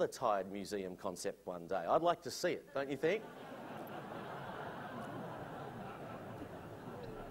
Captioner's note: laughter